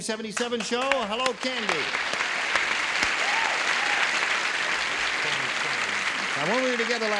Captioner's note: applause